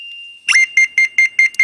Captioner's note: receiver starts beeping